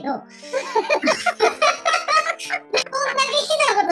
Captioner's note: laughs